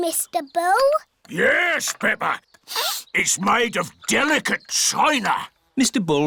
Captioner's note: sniffs